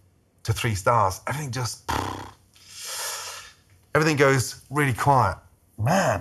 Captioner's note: huffs